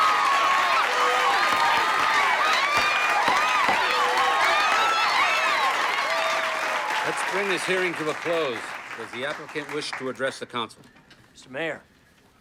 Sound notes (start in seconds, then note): 1.2 gavel banging